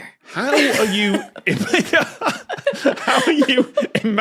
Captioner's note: group giggling